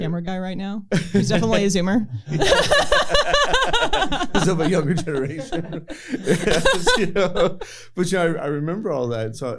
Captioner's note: laughter